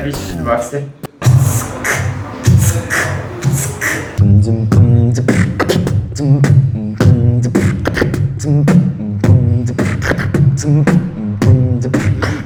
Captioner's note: beatbox